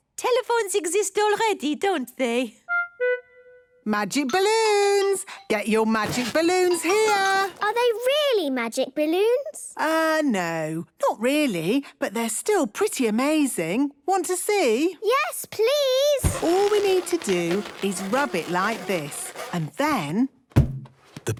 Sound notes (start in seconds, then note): 16.2 balloon rubbing; 20.2 balloon echoes